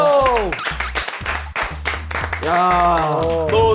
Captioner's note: clapping